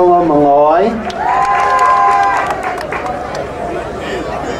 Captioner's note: crowd cheering